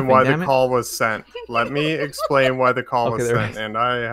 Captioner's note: laughs